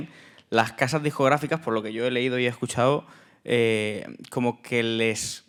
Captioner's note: speaking in Spanish